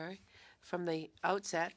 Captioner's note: speaking French